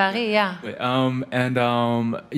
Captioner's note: foreign language